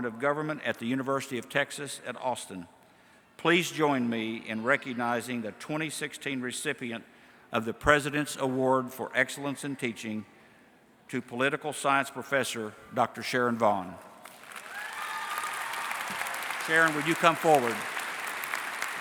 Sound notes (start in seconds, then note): 14.3 cheering and Applause; 18.7 applause